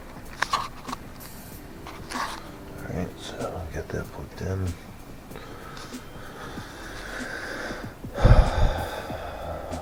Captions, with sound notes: all right so I'll get that plugged in (stress relieving deep breath)